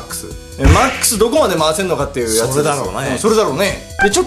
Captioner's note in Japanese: バシッ音